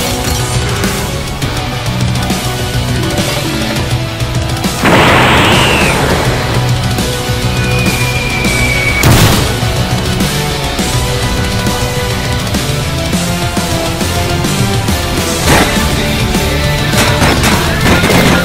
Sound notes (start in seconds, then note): 0.0 rock Music; 8.8 crash; 10.2 rock Music